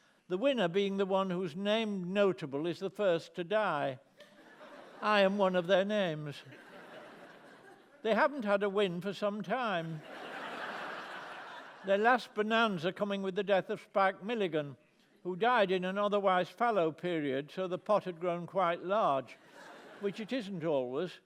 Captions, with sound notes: the winner being the one whose named notable is the first to die. I am one of their names. They haven't had a win for some time... (LAUGHTER) ..their last bonanza coming with the death of Spike Milligan, who died in an otherwise fallow period, so the pot had grown quite large, which it isn't always.